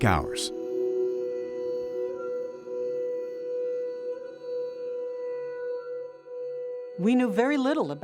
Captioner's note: crickets chirping